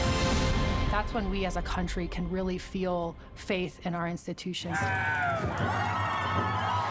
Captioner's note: cheering and applauding